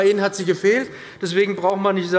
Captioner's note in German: Zurufe von der SPD